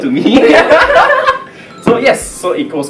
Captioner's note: laughs